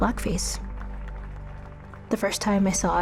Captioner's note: audience clapping